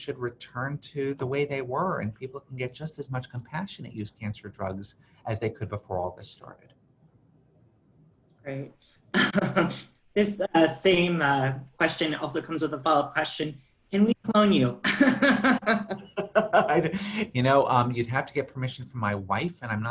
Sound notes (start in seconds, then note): 8.9 laughs; 14.9 laughter